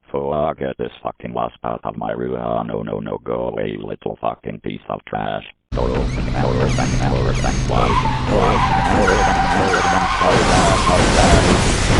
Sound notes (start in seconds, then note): 5.8 tires squealing; 5.9 door opening & closing